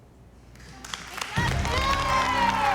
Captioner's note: applause